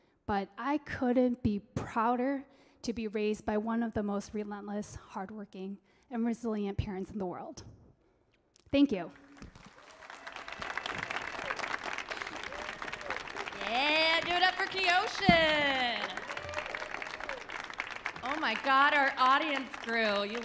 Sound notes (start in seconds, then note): 9.7 audience clapping; 13.4 audience cheering